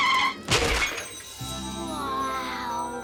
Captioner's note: tires screeching; bike crashes; bike sparkling